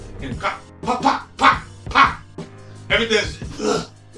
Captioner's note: imitates punching sounds